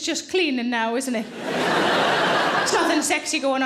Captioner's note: audience laughing